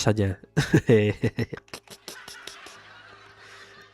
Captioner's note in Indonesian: tertawa